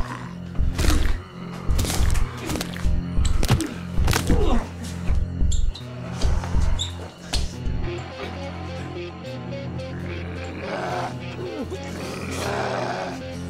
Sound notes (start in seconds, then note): 1.6 flesh squishing; 8.1 intense music; 10.5 zombie growling